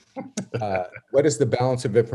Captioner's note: laughing